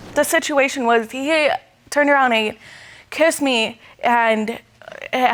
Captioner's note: stammering